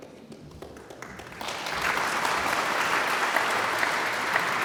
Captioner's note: audience applauds